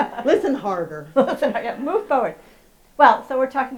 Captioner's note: laughs briefly